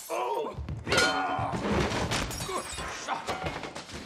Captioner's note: clunk